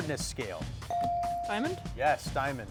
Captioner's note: bell chiming